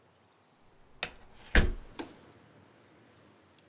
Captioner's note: door closes